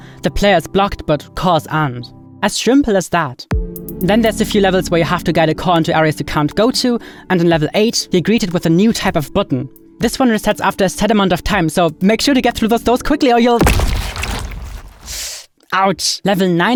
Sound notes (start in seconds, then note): 13.6 flesh squelching; 14.2 dramatic music